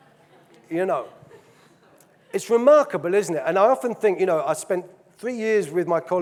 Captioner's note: audience laughing